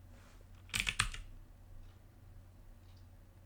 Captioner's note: click